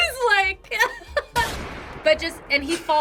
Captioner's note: laughs; gunshot echoes